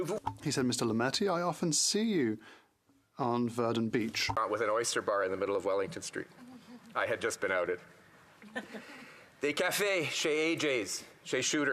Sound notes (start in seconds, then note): 4.5 speaking French